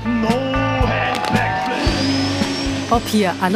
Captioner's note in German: Jubel